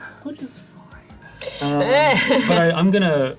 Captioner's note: laughs